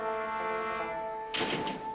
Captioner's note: door slams